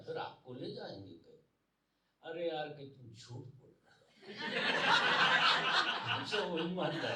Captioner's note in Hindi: हंसी